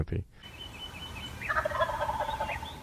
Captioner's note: birds chirping; turkey gobbling